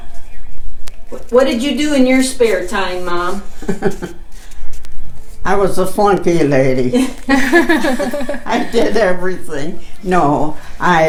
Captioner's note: chuckles